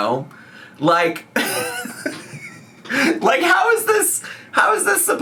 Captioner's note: laughing